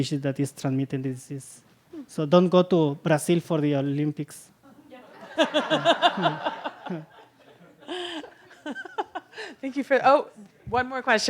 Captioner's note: laughter